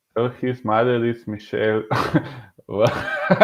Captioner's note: laughing